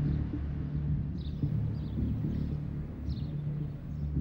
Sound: somber music; birds chirping

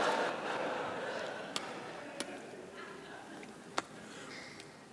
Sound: lip Smacking

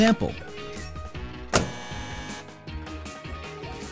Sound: buzzer

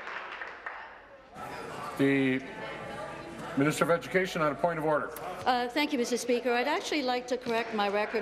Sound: applause

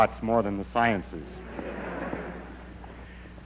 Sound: audience laughter

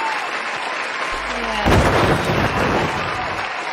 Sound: crash

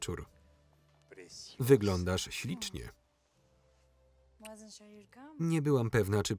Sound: speaking foreign language

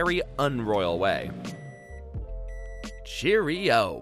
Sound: microwave beeps

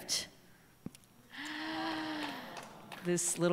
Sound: gasps

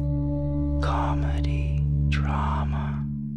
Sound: guy whispering

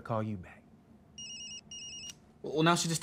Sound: ringing

